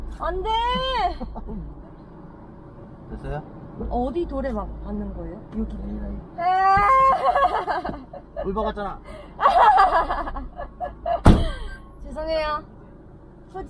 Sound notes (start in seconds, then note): 6.4 crying